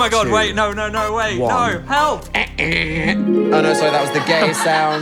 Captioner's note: wondrous sound effect